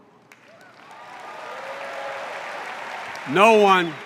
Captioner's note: applause